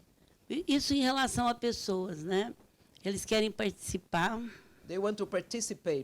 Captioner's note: speaking Portuguese